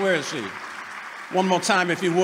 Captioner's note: applause